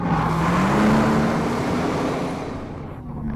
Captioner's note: engine roars